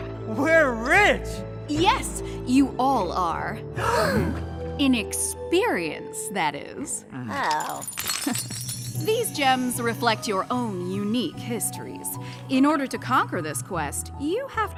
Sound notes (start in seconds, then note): 3.8 gasps; 7.1 disappointed groans